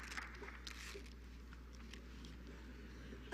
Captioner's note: applause